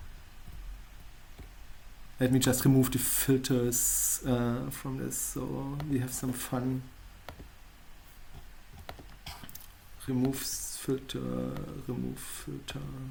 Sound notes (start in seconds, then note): none